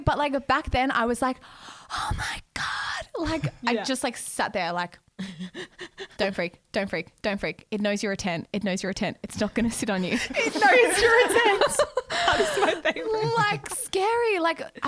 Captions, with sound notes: but like back then, I was like oh my god! I just like sat there like don't freak, don't freak. It knows you're a tent. It knows you're a tent. It' not gonna sit on you. (laughing together) - That is my favorite. - Like scary.